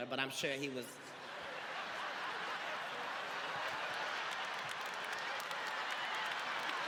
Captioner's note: audience laughing and clapping